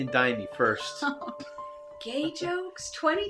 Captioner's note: chuckles